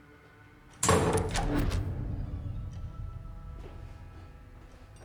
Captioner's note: door thuds closed